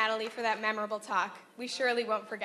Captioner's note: applause